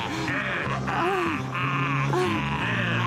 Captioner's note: gasping; groaning